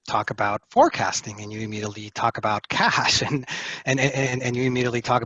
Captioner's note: laughs